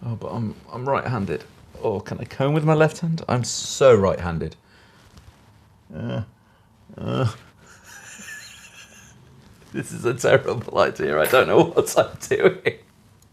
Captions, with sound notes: Oh, but I'm right handed. Or can I comb with my left hand? I'm so right handed. Uh, uh (laughing). This is a terrible idea. I don't know what I'm doing (laughing).